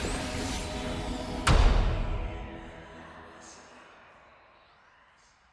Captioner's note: slamming door